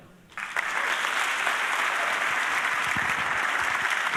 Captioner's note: audience applauding